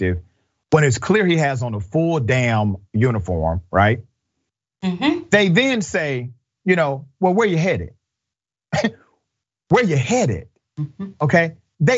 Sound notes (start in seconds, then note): 8.7 laugh